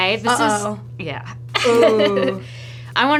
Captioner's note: laughs